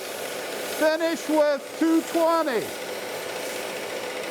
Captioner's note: machine roaring; machine roaring